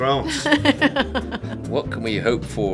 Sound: laughing

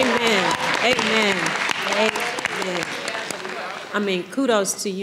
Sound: audience applauding

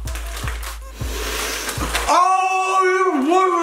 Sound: sharp inhale

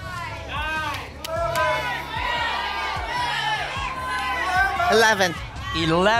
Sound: audience shouting numbers

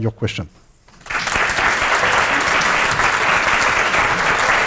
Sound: applause

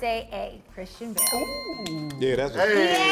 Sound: cast applauding and chattering

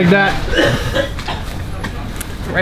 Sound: guy hacking in the alley

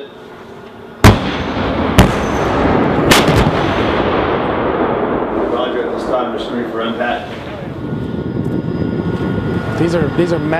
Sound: tank fires

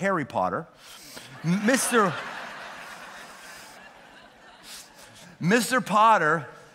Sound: laughter

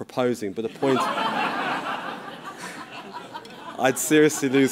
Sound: laughter

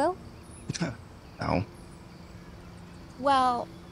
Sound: scoffs

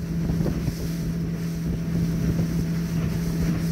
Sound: boat engine

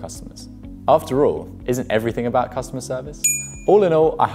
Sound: ding

